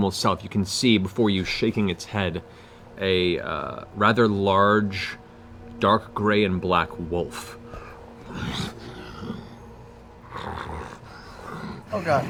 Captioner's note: growls, snarls